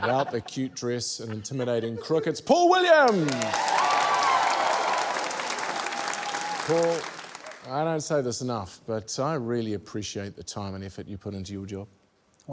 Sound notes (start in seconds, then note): 4.6 cheering, applause